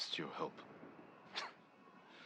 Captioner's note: laugh